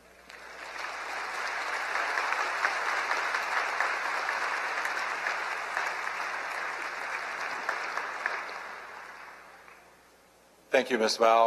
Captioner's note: applause